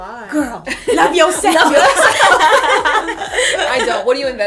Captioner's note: laughter